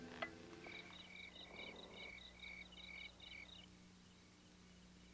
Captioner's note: insects chirping